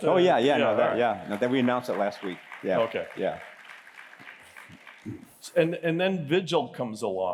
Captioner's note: applause